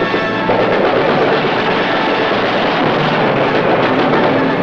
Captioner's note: gunshots fired